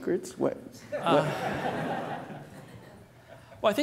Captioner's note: laughter